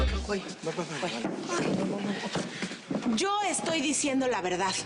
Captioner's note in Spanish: Ruidos al pararse todos